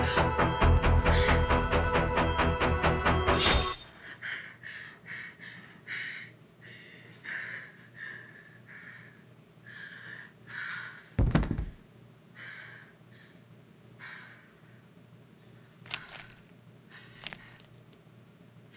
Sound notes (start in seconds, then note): 4.1 Jenelle breathing heavily; 11.2 body thumps; 12.4 Jenelle breathing heavily; 15.9 knife crunching